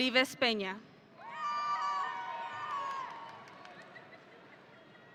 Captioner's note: audience cheering